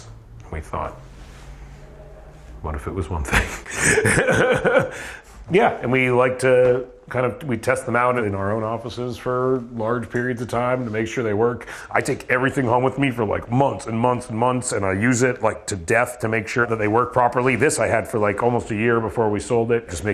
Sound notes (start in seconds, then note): 3.2 laughs